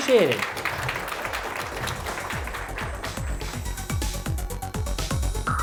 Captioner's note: applause; closing music